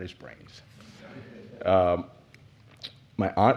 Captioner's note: laughter